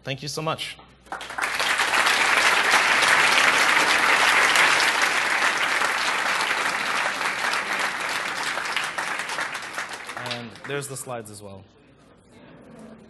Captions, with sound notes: Thank you so much. [APPLAUSE] And there's the slides as well.